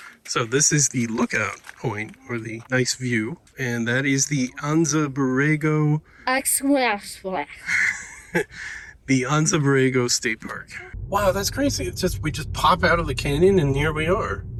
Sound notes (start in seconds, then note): 6.2 speaking jibberish; 7.6 laughter